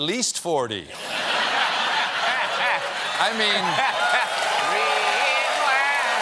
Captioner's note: laughter